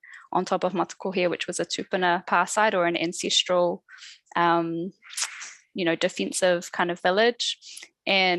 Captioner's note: non-english speech